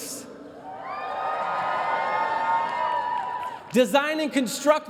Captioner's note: cheering